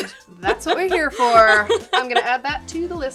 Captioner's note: laughing